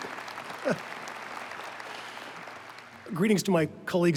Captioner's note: applause